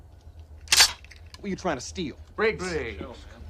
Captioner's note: cocks rifle